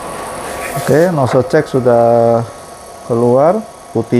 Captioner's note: plastic noise